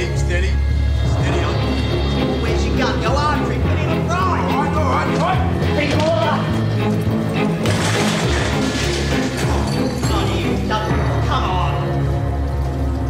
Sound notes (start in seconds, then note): 7.5 clattering and banging